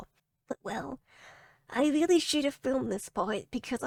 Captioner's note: small voice